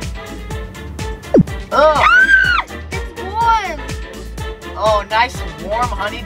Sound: screaming

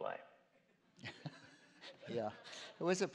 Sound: chuckles

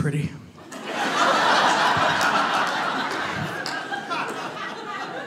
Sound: audience laughs loudly

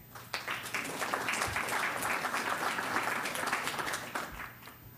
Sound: audience applauds

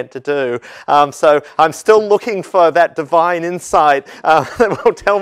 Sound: laugh

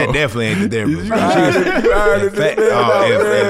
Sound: laughs

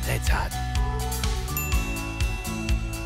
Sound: ding

